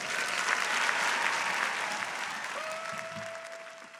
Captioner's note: people clapping